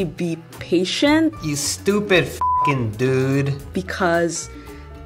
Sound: beep

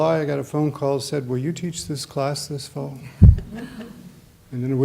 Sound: laughter

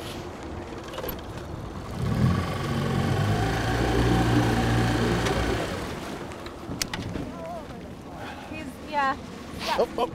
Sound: engine running

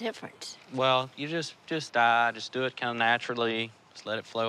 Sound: none

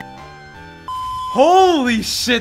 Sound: beep

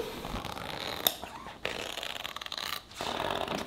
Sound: fabric ripping

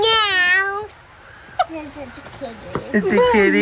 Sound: mom laughing

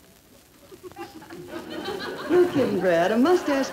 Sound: crowd laughing

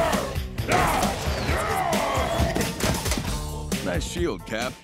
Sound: growling

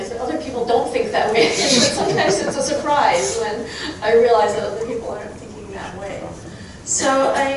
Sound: chuckling

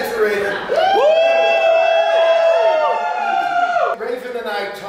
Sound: crowd cheering

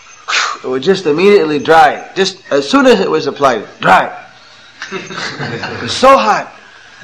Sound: laughter

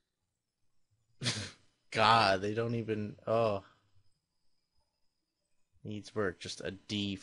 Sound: chuckles

